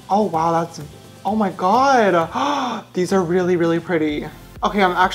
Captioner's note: gasps